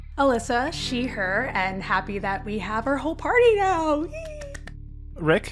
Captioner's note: cheers